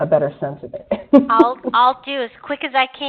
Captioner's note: laughs